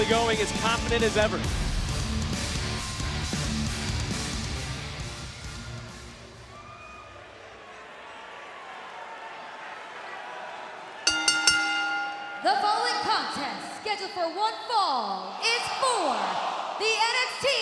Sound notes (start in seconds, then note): 11.0 bell ringing; 11.4 crowd chatter